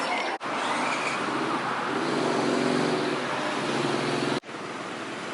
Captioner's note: motorcycle sound